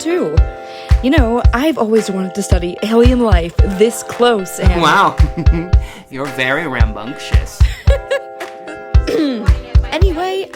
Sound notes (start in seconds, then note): 7.6 Cassie laughing; 9.0 clears throat